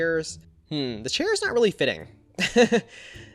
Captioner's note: laughs